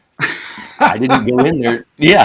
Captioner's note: laughing